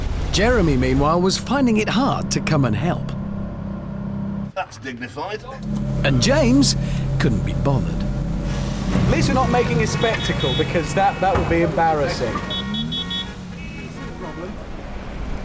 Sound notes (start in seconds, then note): 12.7 car horns blaring